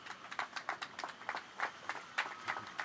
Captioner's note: applause